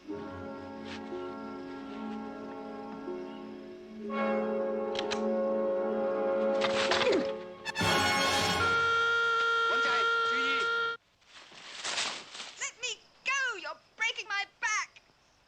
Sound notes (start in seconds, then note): 1.1 tense music; 4.9 click; 6.5 rustling; 8.3 loud beep